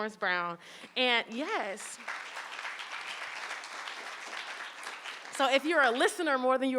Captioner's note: audience applauding